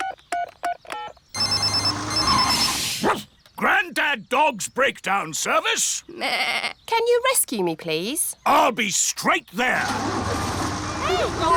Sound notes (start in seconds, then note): 1.3 phone ringing; 1.3 beeping; 3.0 barks; 6.6 bleats